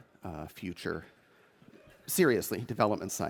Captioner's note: audience chuckles